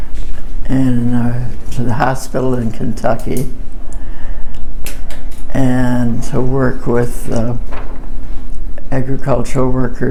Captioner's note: pen clicking noise